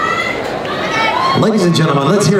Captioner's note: voiceover